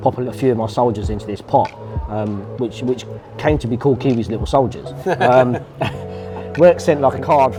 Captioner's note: laughs